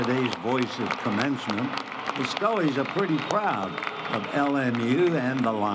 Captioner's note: applause